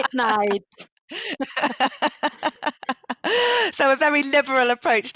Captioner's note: laughing